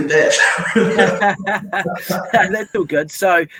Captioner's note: laughing